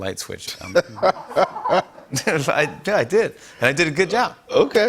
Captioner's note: laughs